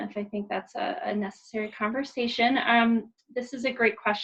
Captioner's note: none